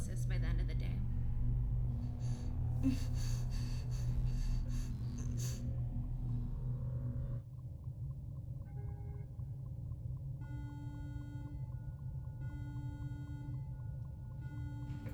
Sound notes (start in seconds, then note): 2.8 Olive grunts and strains; 9.9 alarm blares steadily